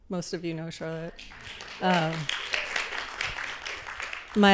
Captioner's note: applause